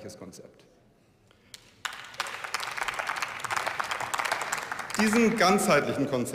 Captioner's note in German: Beifall